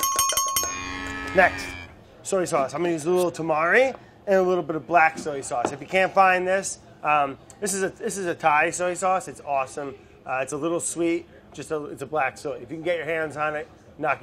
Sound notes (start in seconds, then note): 0.0 dinging sounds; 0.6 mooing sound